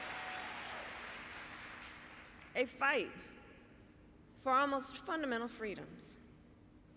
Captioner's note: applause